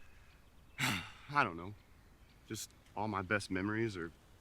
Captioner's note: sighs